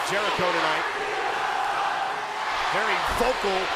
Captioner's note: crowd chants